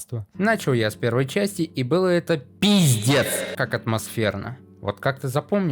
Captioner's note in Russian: Громко